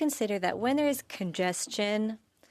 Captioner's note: speaking French